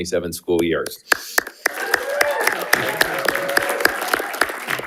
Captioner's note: panelists applauding